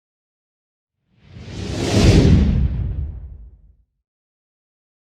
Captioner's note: air whooshing